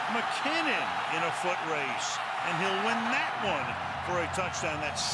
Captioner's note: cheering